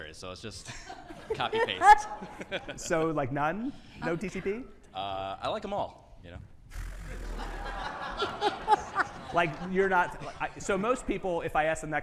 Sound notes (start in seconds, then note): 6.9 audience laughing